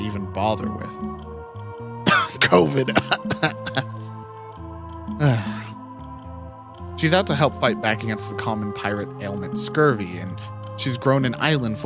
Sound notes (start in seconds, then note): 5.1 sigh